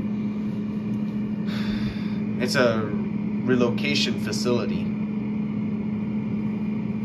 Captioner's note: exhales